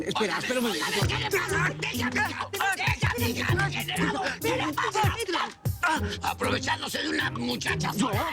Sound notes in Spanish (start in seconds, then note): 1.0 Quejidos